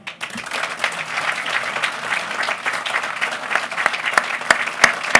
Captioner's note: applause